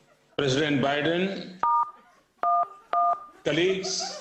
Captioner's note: phone dialing